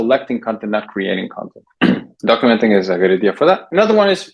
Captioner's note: clears throat